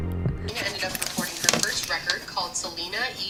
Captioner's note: woman talking on TV